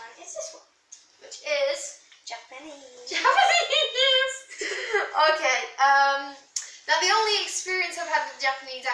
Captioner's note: laughs